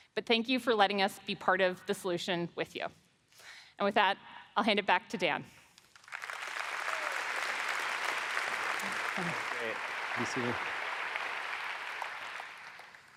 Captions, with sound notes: But thank you for letting us be part of the solution with you. And with that I'll hand it back to Dan. (audience applauds)